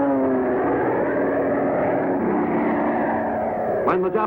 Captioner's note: airplane engines roaring